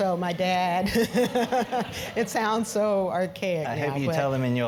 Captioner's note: laugh